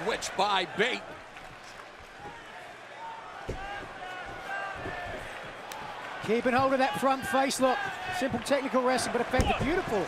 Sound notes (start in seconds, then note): 0.0 crowd cheering; 1.6 crowd chatter